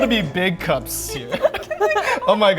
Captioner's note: members laughing